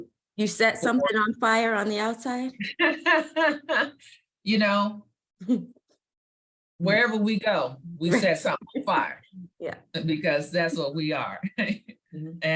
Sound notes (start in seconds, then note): 4.3 laughs